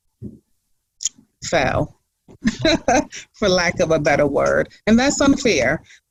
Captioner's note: laughs